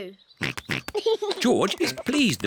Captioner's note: snorts and giggles